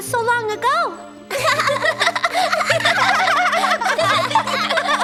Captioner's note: giggling